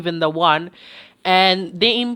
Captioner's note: breathes